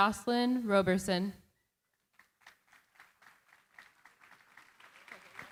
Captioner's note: applause